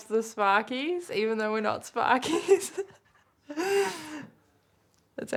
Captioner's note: laughs